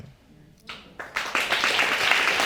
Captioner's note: audience applauding